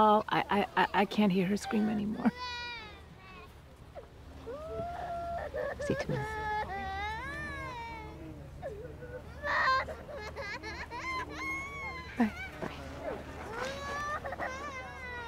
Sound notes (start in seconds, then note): 10.8 crying